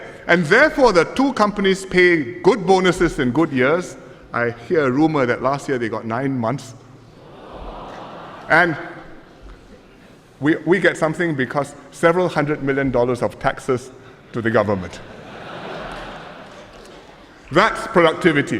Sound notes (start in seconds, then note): 7.2 voices of astonishment; 15.0 laughter